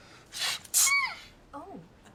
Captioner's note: sneezes adorably